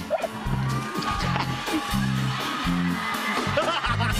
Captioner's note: laughter